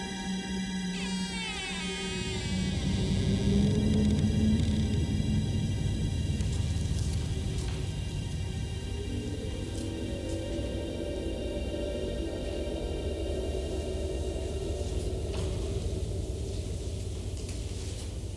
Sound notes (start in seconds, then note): 1.2 door creaking; 4.2 tense music